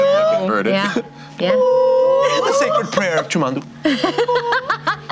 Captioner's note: high pitched squalling; laughter